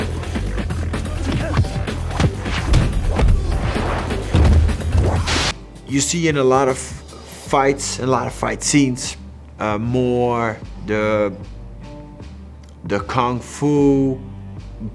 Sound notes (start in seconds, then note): 2.1 thuds